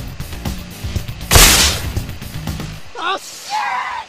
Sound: artillery snapping

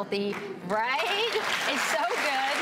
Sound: applause

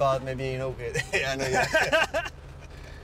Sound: both laugh

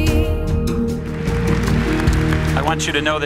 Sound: audience clapping

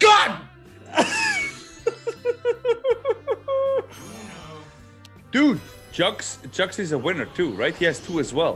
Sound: laugh

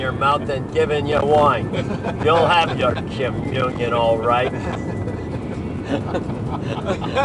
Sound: laughter

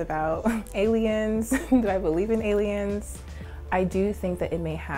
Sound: laughter

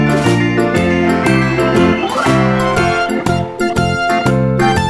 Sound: audience cheering

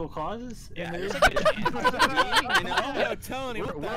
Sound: laughter

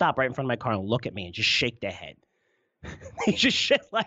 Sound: laughs

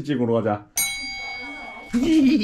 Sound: ding~

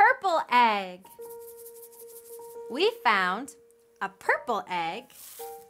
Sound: egg rattles

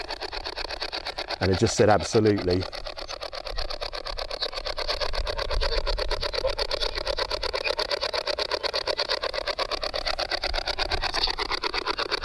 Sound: white noise from spirit box

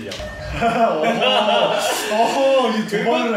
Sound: laughing

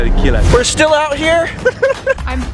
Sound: laughs

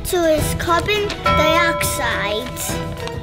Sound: bell dinging

